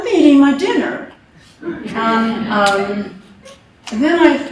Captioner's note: laughter